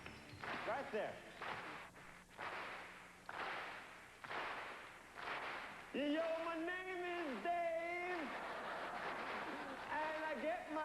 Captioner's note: audience claps in rhythm